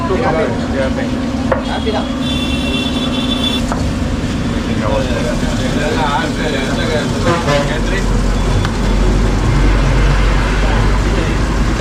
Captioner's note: traffic